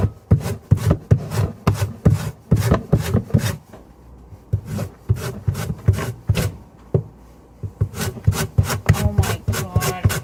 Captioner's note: violent grating